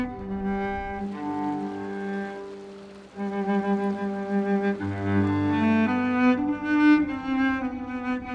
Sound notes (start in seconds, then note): 0.5 water babbling; 5.2 slow cello music